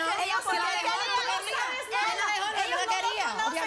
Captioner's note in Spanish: Comentarios al unísono